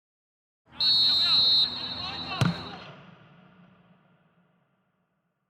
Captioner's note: referees whistle